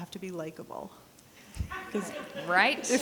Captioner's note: people laughing